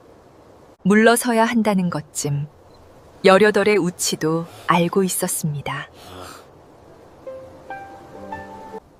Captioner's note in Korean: 콧방귀